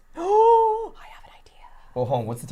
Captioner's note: gasps